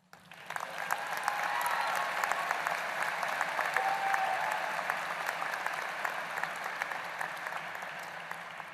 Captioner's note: applause